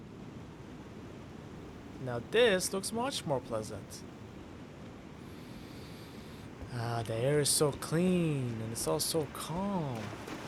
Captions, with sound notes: Now this looks much more pleasant! *long drawn out sniff* Ah. The air is so clean, and it’s all so calm.